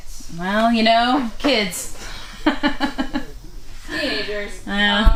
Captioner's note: laughing